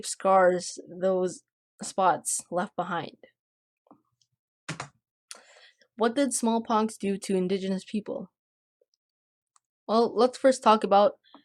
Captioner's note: click